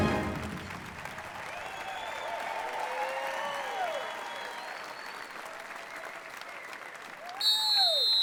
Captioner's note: applause